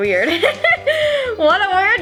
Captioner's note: laughs